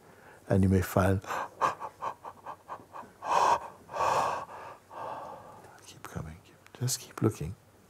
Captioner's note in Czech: velké zívnutí